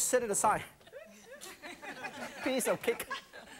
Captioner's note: laughing